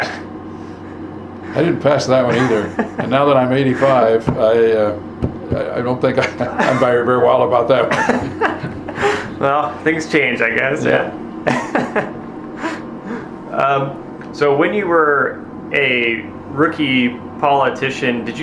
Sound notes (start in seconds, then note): 8.6 both laughing